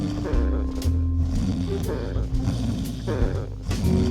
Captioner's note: snoring